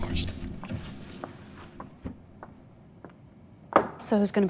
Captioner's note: footsteps tapping